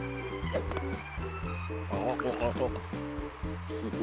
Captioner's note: gulping